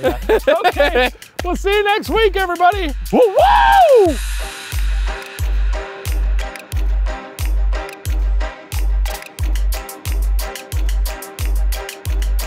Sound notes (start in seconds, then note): 3.0 yells; 4.5 upbeat spooky music